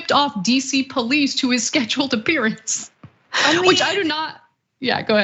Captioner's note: laugh